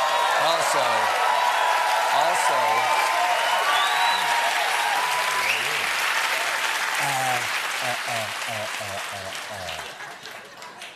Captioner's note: cheers and applause